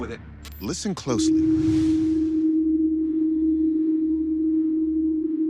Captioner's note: humming